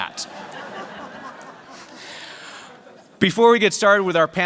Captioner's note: laughter